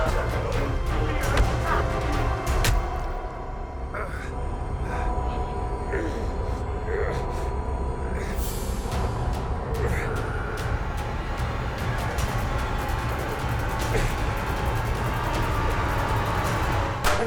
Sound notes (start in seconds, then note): 0.2 suspenseful music; 3.8 Sawyer groaning; 5.4 intense music; 13.0 intense music continues